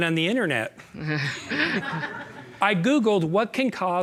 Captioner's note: all chuckling